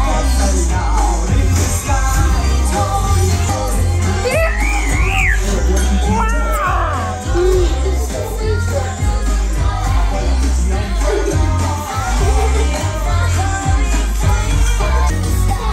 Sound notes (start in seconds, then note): 4.2 shrieking; 6.2 exclaiming